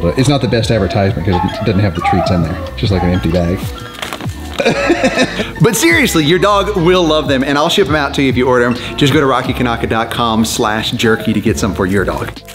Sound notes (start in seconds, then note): 4.6 laughing